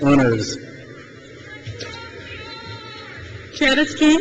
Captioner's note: crowd cheers